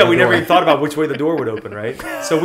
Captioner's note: laughter